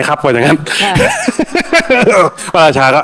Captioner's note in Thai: เสียงหัวเราะ